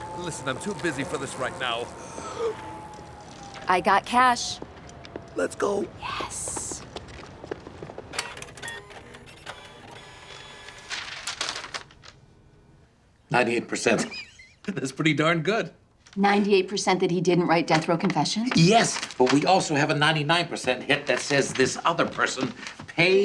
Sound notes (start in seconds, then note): 2.2 inhales sharply; 8.1 computer printer buzzing and clicking; 10.7 paper rustling; 14.0 snickering